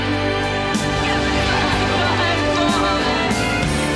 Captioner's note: sobs